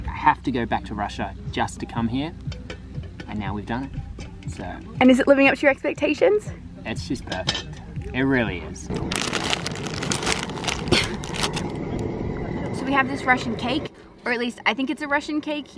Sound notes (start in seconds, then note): 8.9 rustling package